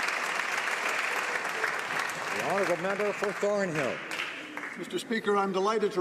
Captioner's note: applause